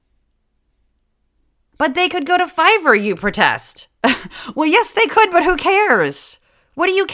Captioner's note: laugh